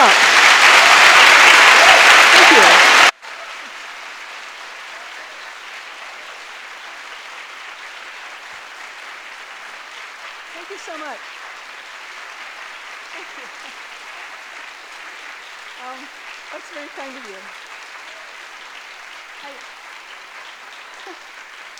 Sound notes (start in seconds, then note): 0.1 audience applauding; 1.5 audience cheering; 4.1 audience applauding; 12.3 audience applauding; 18.3 audience applauding